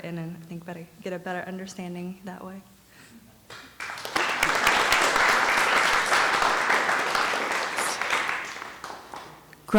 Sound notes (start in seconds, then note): 3.5 applause